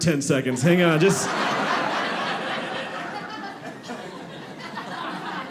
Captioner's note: audience laughing